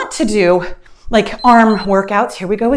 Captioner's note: timer beeps